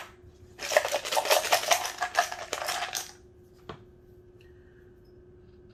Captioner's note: shape objects cluttering